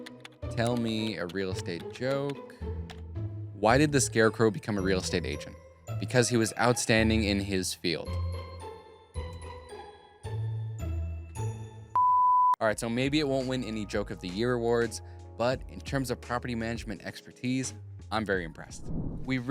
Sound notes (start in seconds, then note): 8.2 playful upbeat music; 11.9 production tone beeps